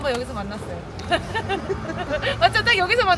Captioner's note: laughs